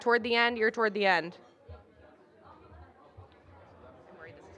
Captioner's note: indistinct chatter